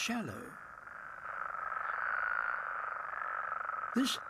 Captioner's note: croaking